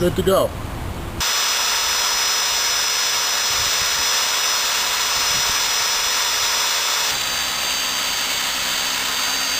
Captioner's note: electric saw noise